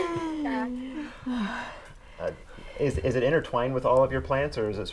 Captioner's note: laughing